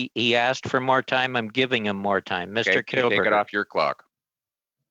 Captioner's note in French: voix de l'interprète